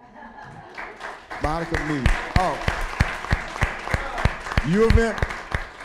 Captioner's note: applause